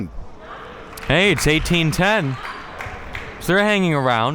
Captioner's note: audience applauding